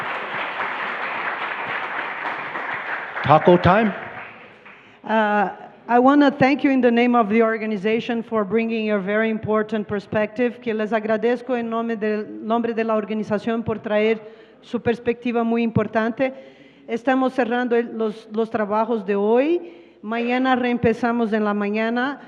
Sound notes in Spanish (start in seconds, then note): 3.9 Aplausos; 7.3 Traductora habla en inglés